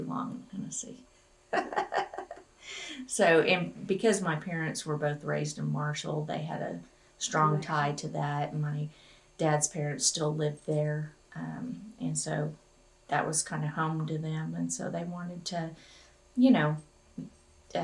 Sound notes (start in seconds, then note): 1.5 laughs